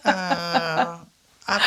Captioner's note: laughs